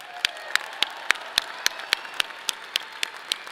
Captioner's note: people cheer; audience applauds